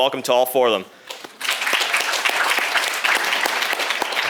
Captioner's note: applause